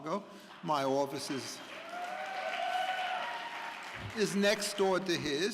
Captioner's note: audience cheering